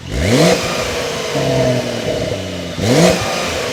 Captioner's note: car engine purring; car engine revving